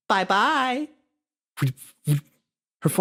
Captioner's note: doll Noises